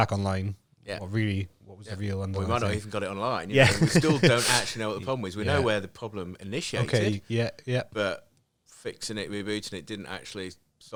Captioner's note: laughing